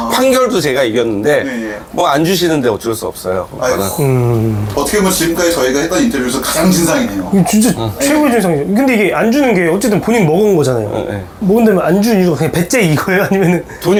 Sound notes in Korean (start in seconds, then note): 6.6 탄식